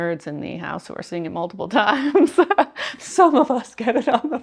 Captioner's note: laughing